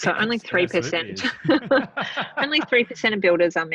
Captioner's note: laughing